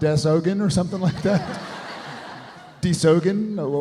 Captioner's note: audience laughs